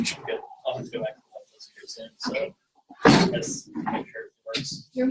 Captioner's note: audio warps man speaking